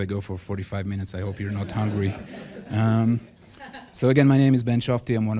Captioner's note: audience laughs